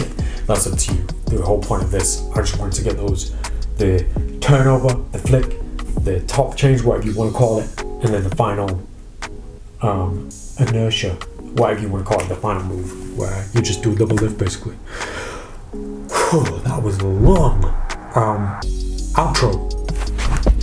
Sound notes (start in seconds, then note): 14.8 heavy Sighs